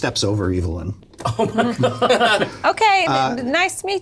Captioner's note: laughs